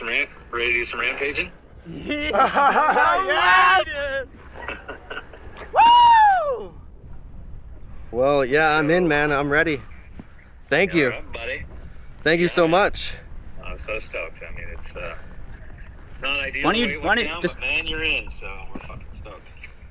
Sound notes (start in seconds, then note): 4.5 laughing